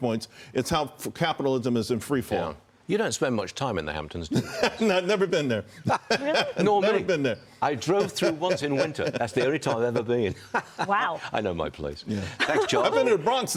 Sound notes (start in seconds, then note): 7.8 laughter